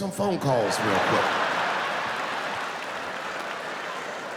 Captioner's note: laughing